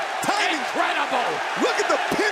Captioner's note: cheers and applause